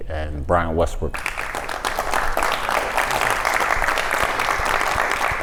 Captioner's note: audience applauds